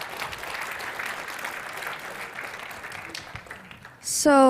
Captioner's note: applause